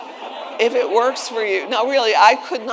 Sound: attendees laughing

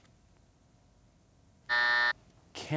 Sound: buzzer

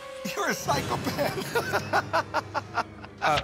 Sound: laughter

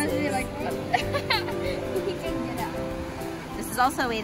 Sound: people laughing

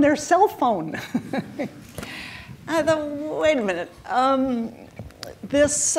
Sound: chuckles

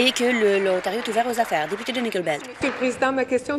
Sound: applause

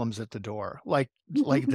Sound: laugh

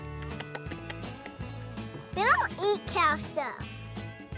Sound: smacking lips

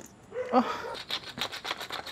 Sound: moans

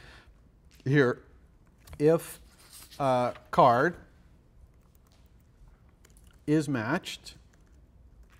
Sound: pause

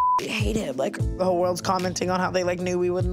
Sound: beep

